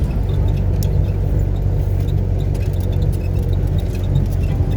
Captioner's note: engine humming